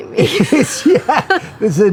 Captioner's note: laughs